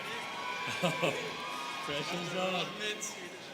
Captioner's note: students cheering